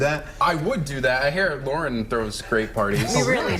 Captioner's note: laughter